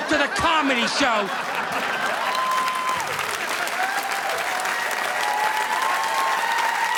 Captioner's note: audience laughing; audience applauding